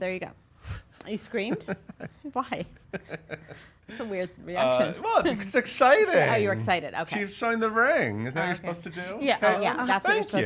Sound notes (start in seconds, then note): 2.5 laughs